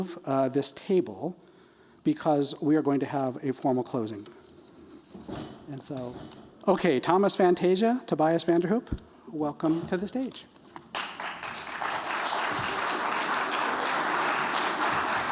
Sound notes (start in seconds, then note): 10.8 applause